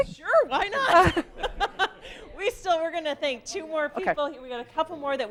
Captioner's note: laughing